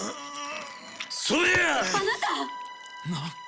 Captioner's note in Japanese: うめき声